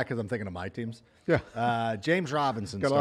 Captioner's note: laughter